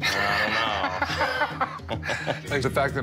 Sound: laughing

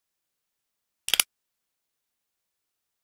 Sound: sound of stapling a paper

